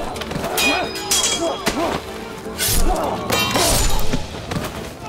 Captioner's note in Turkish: Dövüş sesleri